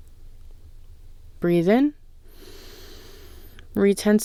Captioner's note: inhale